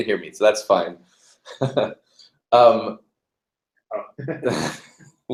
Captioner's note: laugh